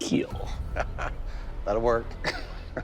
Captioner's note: laughs